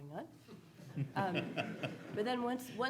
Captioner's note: audience laughing